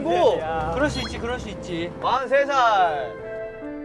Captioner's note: patting